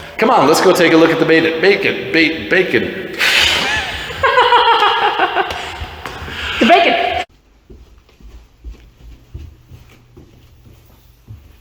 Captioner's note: laughter